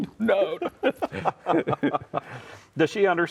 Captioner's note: laughing